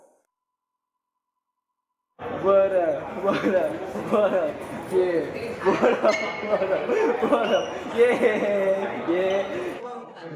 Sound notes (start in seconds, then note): 7.9 laughs